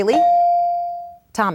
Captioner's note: bell dings